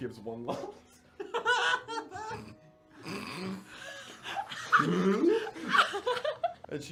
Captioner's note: laughter